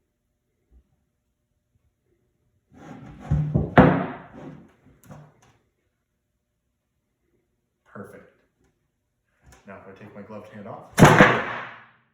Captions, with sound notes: [BIG POP] Perfect Now, if I take my gloved hand off [BIGGEST THUNK]